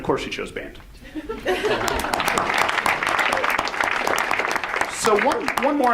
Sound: audience laughs; audience applauds

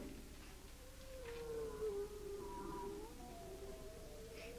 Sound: creature growling

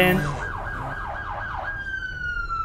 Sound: police Sirens

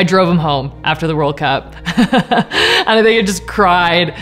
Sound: laughs

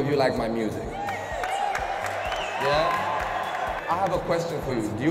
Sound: cheers and applause

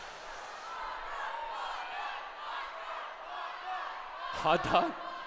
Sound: chanting

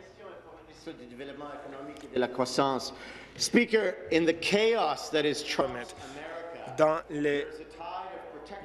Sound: speaking in French

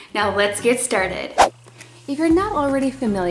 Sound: whoosh

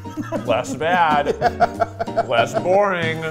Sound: laughing

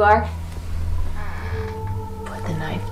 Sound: door creaks

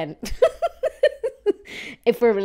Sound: laughing

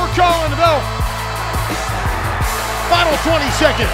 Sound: cheering

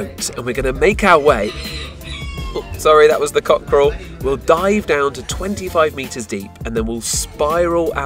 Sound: cockerel Crow

